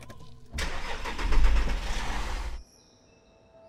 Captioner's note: engine starts